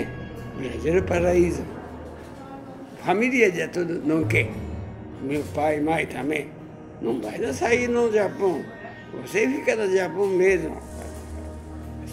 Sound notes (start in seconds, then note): none